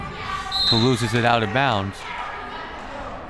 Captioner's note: whistle